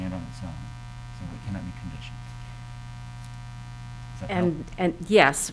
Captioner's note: faintly speaking